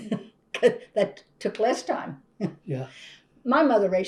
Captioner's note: laughs